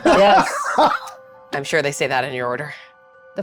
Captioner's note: cast laughs